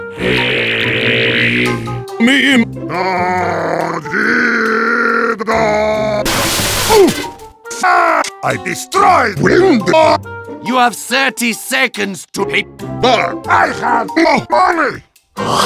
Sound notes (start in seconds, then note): 0.2 makes a weird vibrato ''Eh?''; 2.8 sings on drunkenness; 6.2 Heavy smashes through a window by accident